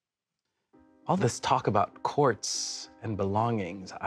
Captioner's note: none